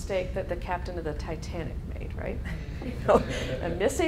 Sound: laughing

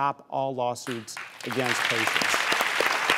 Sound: applause

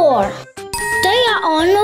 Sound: dinging

